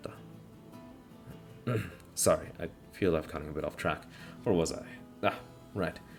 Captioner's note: ahem